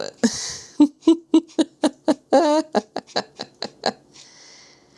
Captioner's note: giggling